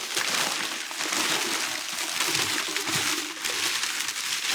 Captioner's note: paper crinkling